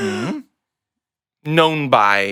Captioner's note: gasping